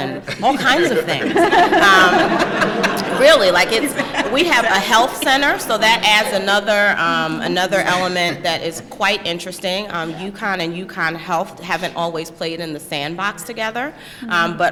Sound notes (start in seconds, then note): 1.8 laughter